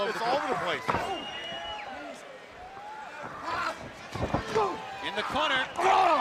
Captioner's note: crowd chatter